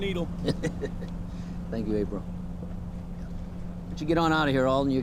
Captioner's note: chuckling